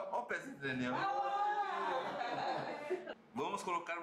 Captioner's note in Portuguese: risos